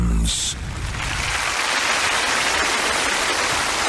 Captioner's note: audience applauding